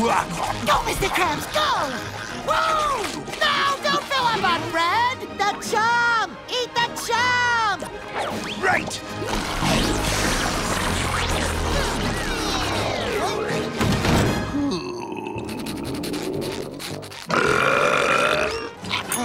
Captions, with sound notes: Go, Mr. Krabs, go! Whoo! No, don't fill up on bread! The chum, eat the chum! Right. [groaning] [belching]